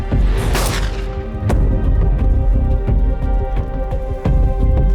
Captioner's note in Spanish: Disparo